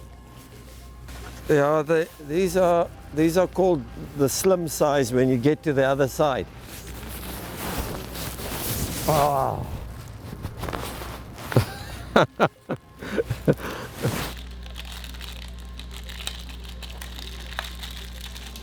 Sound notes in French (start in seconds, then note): 9.0 soupir; 11.5 rires